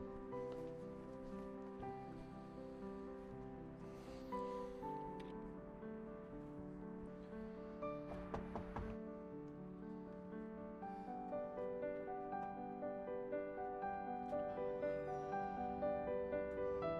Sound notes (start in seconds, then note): 8.1 Wes knocks on door; 8.3 gentle music